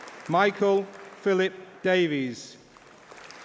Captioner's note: applause